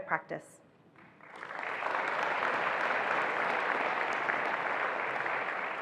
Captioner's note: attendees applauding